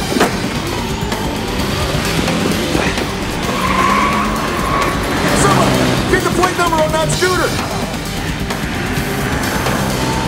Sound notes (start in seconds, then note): 3.5 tires screeching